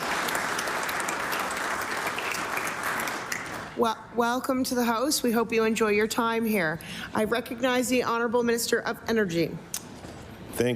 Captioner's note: applause